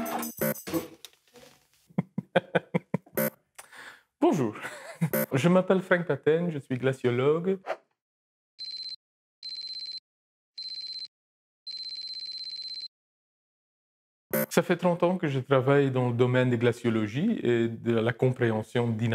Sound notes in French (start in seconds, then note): 1.9 rires